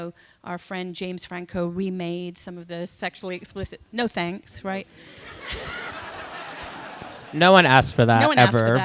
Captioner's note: laughter